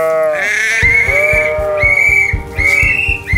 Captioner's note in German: Pfeifton; Beide pfeifen